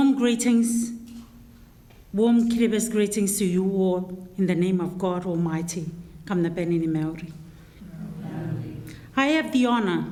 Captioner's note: in foreign language